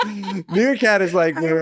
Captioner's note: laughing